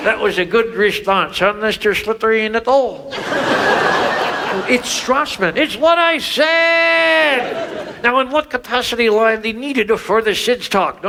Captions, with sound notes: That was a good response huh, Mr. Slippery in the thaw? (audience laughs) - It's Strassman. - It's what I said. Now in what capacity line they needed for the Sid's talk?